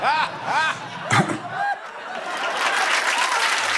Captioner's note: coughs